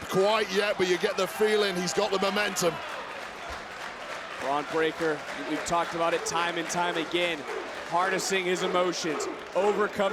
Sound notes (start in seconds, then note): 2.9 applause